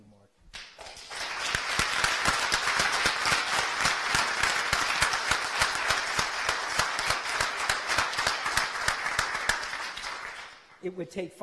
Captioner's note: applause